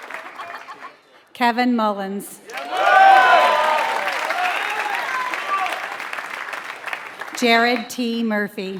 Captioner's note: applause